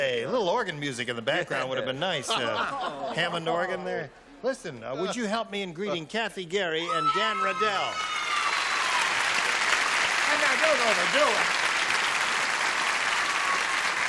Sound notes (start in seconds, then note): 7.8 applause